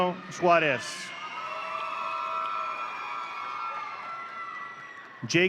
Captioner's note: audience cheering